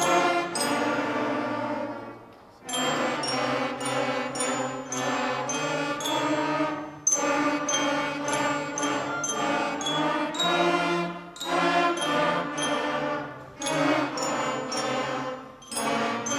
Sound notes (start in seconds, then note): none